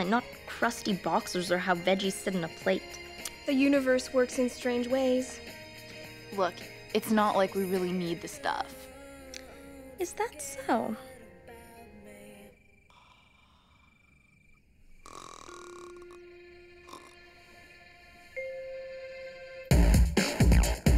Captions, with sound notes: not crusty boxers or how veggies sit in a plate. - The universe works in strange ways. - Look it's not like we really need the stuff. - Is that so? (Adena snores) (upbeat music)